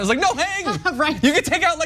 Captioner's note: laugh